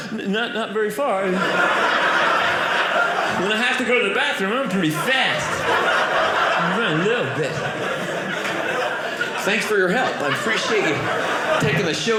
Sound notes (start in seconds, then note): 1.9 audience laughing